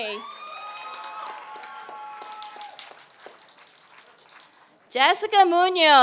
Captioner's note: applause